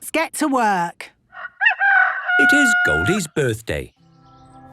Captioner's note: rooster crowing